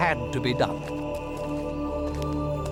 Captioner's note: birds; men chanting